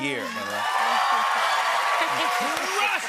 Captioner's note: cheers and applause